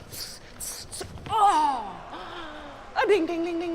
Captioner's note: groans